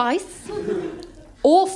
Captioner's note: laughter